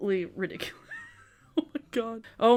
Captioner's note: chuckles